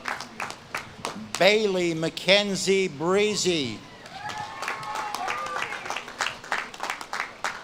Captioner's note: audience claps and cheers